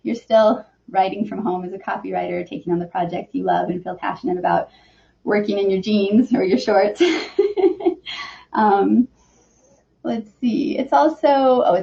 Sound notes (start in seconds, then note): 6.9 laughs